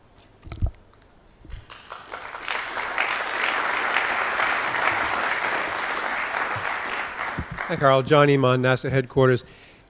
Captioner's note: applause